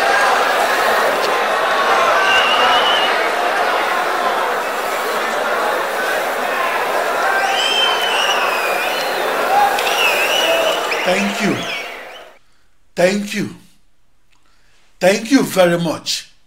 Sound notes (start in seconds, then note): 5.9 wild applause and cheering for 22 seconds